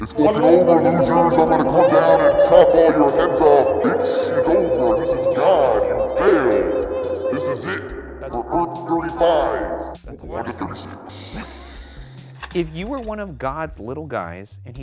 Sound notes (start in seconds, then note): 2.4 trilling tongue; 11.4 laughs